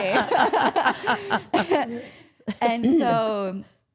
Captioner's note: all laughing